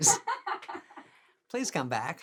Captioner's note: chuckling; woman laughing